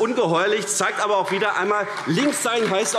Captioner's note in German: Beifall AfD